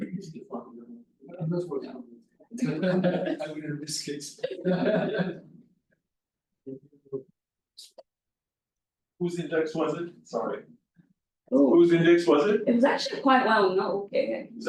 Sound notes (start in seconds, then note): 2.6 laughter